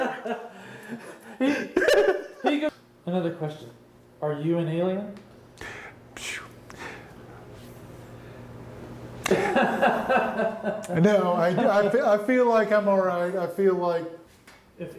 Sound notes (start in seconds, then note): 0.0 laugh; 9.2 laughs